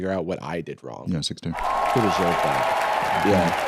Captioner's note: cheering, applause